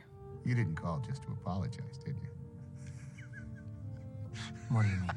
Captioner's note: laughing